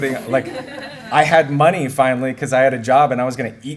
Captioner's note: laughter